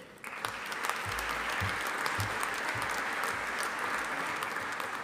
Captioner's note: audience applauding